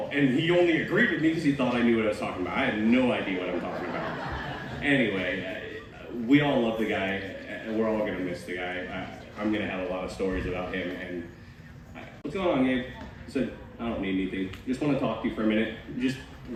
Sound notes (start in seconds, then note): 3.4 laughter